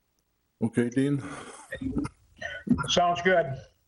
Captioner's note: chuckles